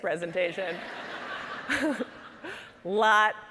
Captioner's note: audience laughing